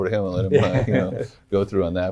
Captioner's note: laughs